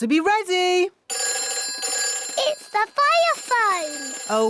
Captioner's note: phone rings